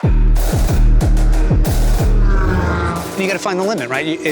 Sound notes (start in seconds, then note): 0.0 upbeat music; 1.6 engine revving